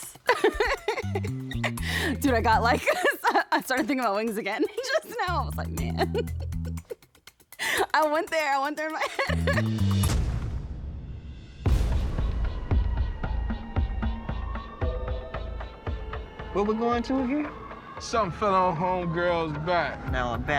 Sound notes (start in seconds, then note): 0.0 laughs; 12.6 sirens wailing